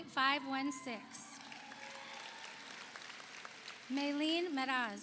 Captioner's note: audience cheers; audience applauds